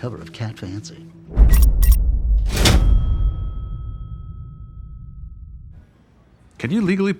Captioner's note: deep swoosh; text clicks and bangs